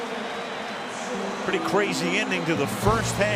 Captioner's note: pa announcement